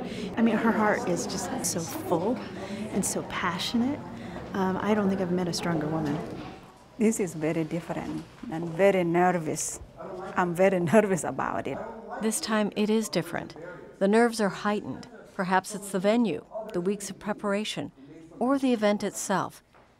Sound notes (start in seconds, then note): none